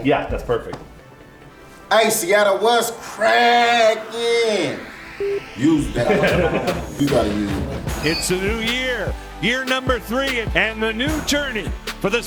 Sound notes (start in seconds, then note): 5.1 camera beeps; 5.7 people laugh